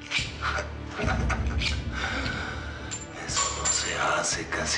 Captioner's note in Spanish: Ríe